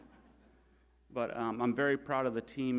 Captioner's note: audience laughing